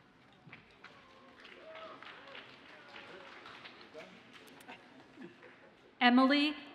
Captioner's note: audience cheers and applauds faintly